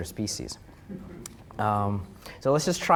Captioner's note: audience chuckling